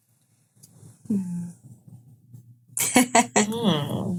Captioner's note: humming; laughing